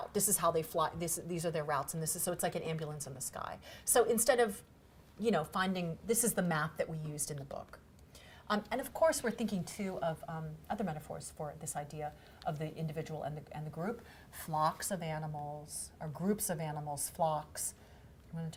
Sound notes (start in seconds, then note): none